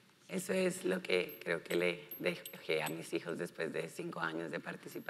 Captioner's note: speaking in foreign language